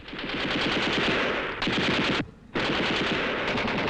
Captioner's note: gunshots